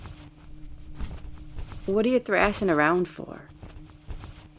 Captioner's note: rustling